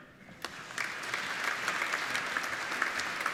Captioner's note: applauding